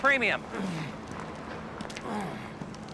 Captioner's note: grunting